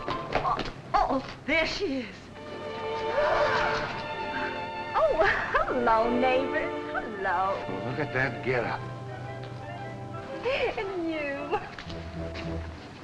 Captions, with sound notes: - Oh, oh, there she is. (gentle music) (group gasping) - Oh, hello neighbors. Hello. - Look at that getup. - And you. (dramatic music)